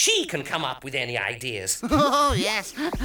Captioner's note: Iver laughs